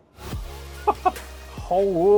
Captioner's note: laughs